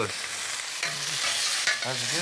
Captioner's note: sizzling